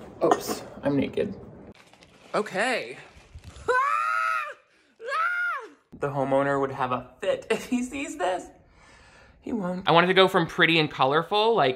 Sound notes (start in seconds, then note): 3.6 screams